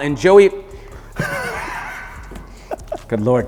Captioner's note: laughing